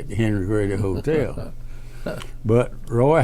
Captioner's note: laughs